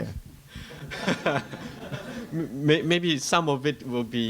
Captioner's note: laughter